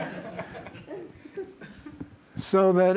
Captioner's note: laughter